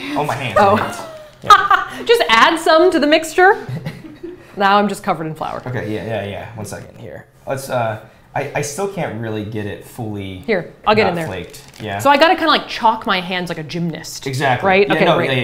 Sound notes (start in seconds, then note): 3.6 laughs